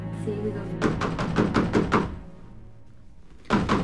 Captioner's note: knocking on door